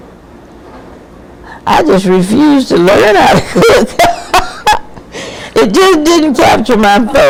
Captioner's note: laughing